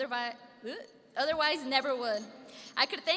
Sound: stammering

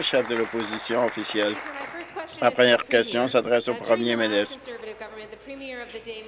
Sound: applause

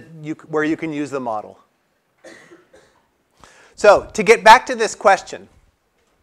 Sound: cough

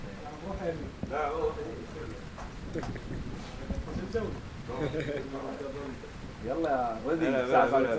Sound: laughing

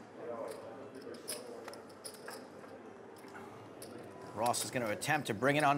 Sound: rattling of poker chips

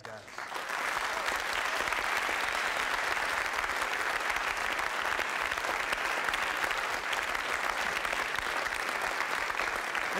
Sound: applause

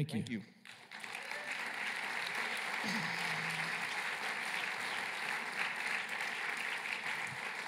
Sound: applause

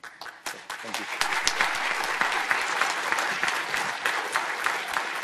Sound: audience applauding

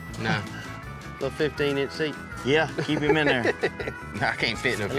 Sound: laughs

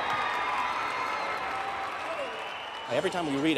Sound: audience applauding

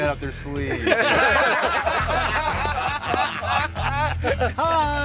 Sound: laughter

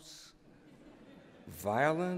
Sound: laughter

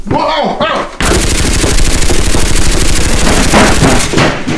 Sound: gun firing

